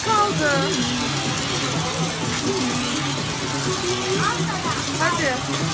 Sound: water sound

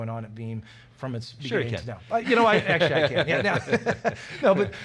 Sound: laughter

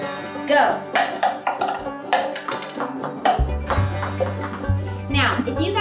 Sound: ping pong balls bounce

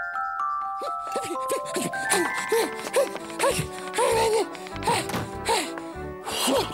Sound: Panicked Mayor noises!

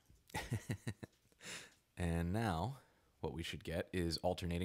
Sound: laughing

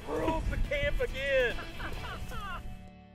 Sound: laughing

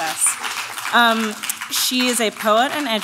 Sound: audience claps

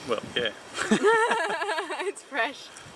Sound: laughs

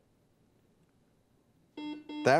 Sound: buzzer beeps

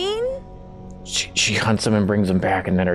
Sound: side Whispers

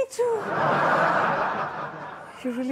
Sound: audience laughs

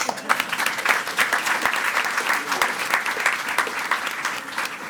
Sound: attendees clapping

